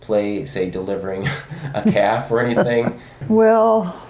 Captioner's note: both chuckle